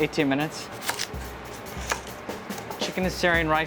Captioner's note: knife hits chopping block